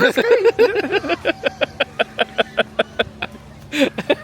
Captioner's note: laughing